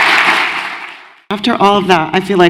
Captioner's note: applause